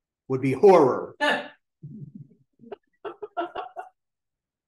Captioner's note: laughter